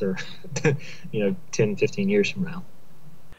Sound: laughter

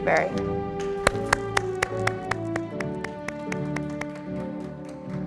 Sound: audience applauding

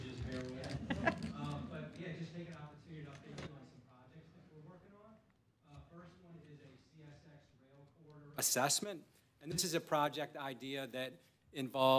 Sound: laughter

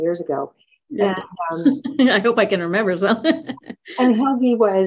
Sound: laughs

